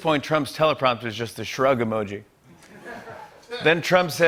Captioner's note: laughter